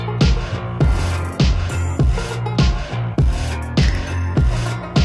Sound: crash crash and crash

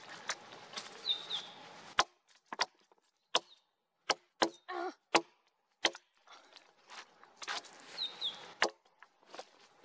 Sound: wood cracking, pine grosbeak; axe knocking on wood, brushing with gloved hand, pine grosbeak; footsteps, more axe knocking on wood

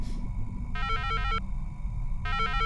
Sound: ringtone

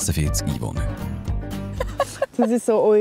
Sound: laughs

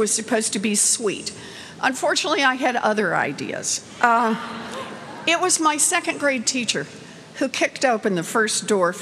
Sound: laughter

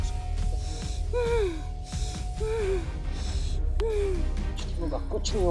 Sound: panting heavily

